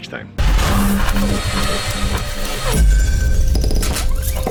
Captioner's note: electronic sounds